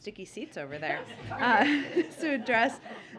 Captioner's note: laughter